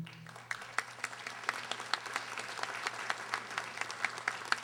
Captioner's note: audience applauding